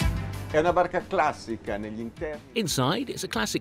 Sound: speaking in foreign language

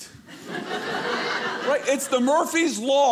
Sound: audience laughing

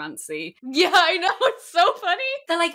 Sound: laughing

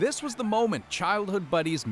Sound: cheers and applause

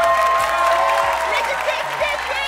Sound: cheering

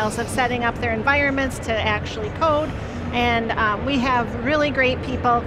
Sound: none

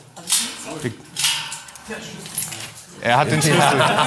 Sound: clatter

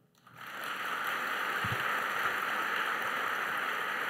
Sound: applause

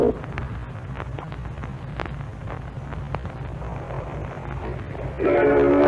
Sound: static

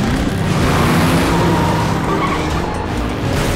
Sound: revving

